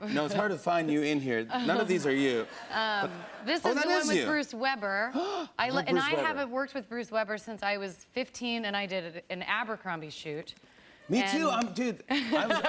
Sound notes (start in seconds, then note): 5.1 gasps